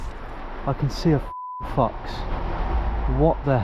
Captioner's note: beeping